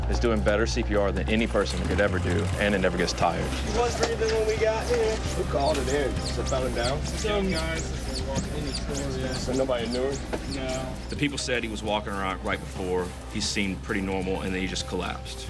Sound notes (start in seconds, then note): none